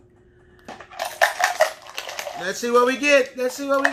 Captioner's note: shape objects cluttering